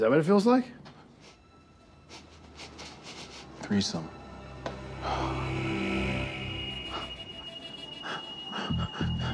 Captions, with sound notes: - IS THAT WHAT IT FEELS LIKE? - [sniffing] THREESOME. [sighs]